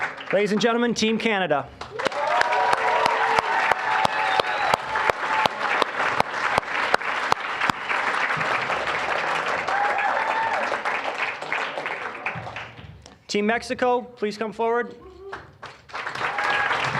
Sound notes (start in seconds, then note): 0.0 applause; 1.7 applause, cheering; 15.3 applause